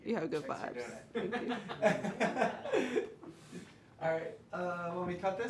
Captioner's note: laughs